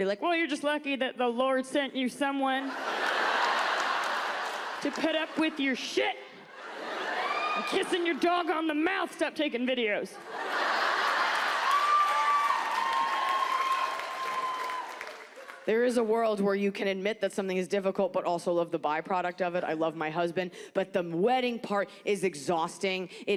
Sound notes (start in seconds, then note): 2.6 audience laughs; 10.1 audience laughs